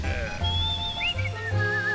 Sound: chuckling; whistling continues

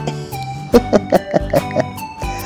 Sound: laughs

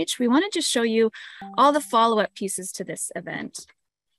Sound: notification sound

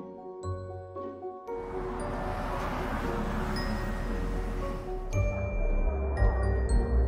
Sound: mysterious music; traffic humming

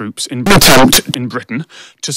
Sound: loud and distorted

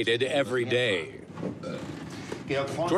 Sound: burps

